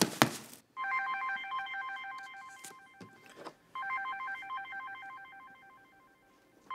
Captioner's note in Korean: 휴대전화벨 소리